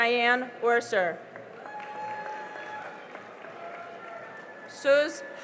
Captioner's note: cheering and applause